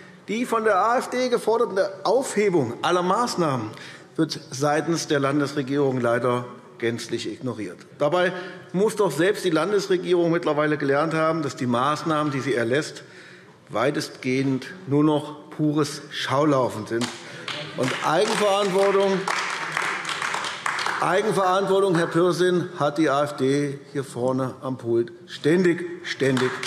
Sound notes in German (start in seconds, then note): 17.0 Beifall AfD